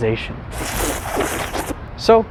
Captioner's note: revolting tongue noises